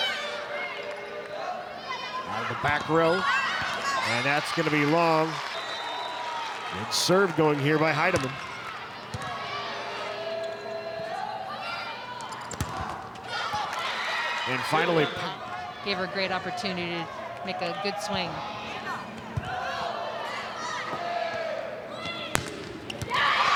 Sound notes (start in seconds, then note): 1.3 players shouting indistinctly; 12.5 ball thumping; 13.2 audience cheering; 19.9 ball thumping; 23.0 audience cheering